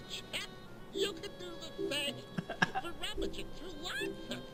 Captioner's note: giggling